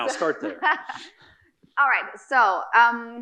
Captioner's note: laughing